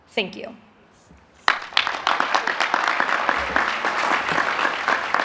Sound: applause

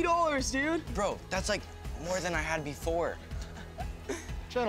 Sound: Ace chuckles

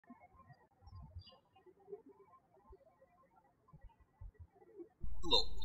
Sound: birds chirping

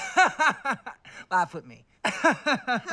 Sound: laughs; forced laughter

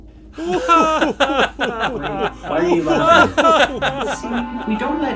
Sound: agents laughing

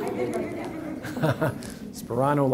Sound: audience laughs

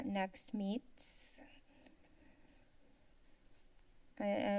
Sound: silence

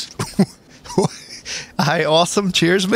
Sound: confused laughter?!

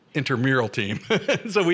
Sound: laughter

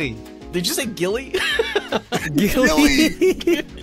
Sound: chuckles

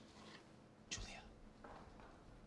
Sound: whispering

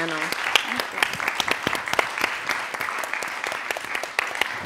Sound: applause

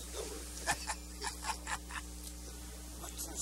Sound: laughter

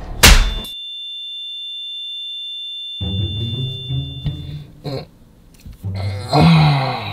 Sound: high pitched sound

